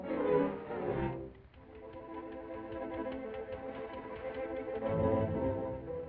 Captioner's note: ticking